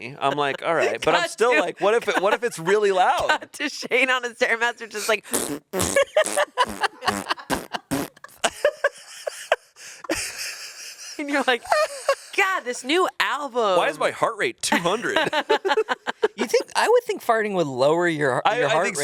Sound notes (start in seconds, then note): 5.2 imitates fart sounds; 5.9 laughs; 8.2 everyone laughs; 15.0 everyone laughs